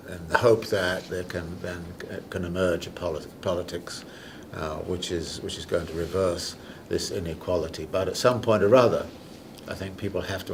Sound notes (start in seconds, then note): none